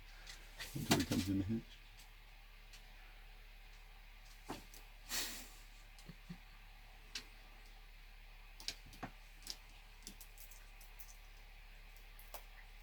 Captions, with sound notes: Wait until he comes in the hatch. (laughs)